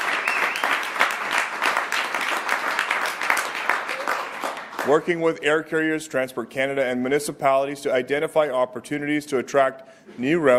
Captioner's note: applause